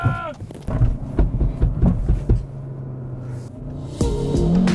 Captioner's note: shouts in the boot; noise in the boot